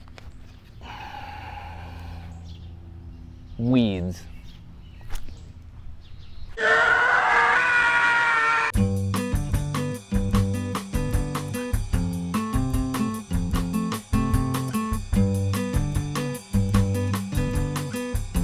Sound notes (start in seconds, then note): 6.6 scream; 9.0 elevator Music